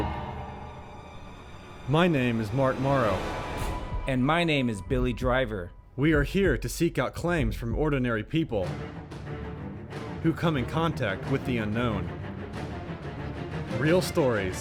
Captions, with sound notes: We investigate the Hay Legal Group. My name is Mark Morrow. - [Voiceover] And my name is Billy Driver. - [Voiceover] We are here to seek out claims from ordinary people who come in contact with the unknown.